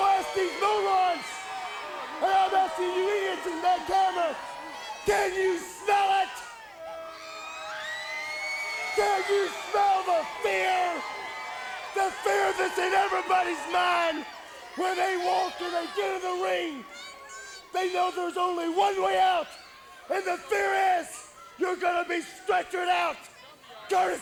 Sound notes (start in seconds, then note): 7.3 crowd yelling